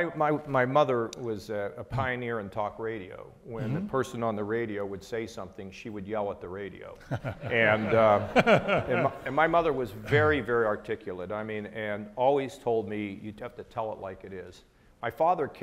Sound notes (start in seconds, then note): 7.1 audience laughing